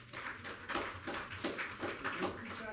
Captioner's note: audience clapping